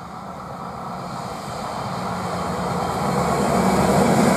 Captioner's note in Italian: Rumore transito Autocarrello S 95